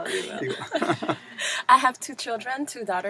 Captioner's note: laugh